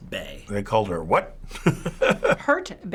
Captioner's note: chuckles